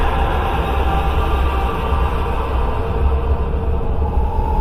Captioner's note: scream